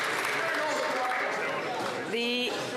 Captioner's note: some Applause